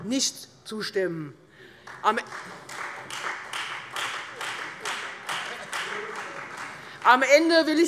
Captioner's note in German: Beifall Freie Demokraten